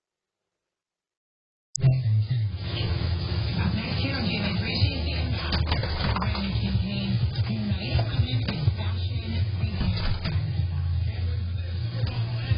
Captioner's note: TV plays in the background